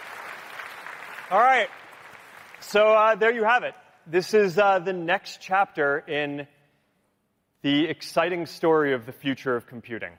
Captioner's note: applause